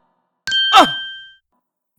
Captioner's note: surprised grunt!